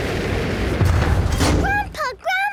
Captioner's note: thuds